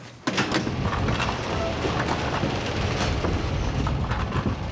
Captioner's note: garage door rattling